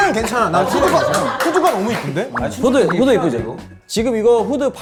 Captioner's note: pats